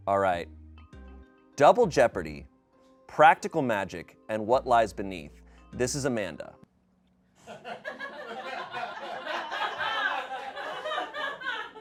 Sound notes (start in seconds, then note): 7.4 people laugh